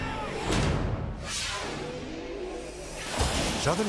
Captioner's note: air whooshes